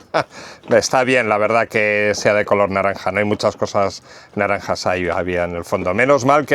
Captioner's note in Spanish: risas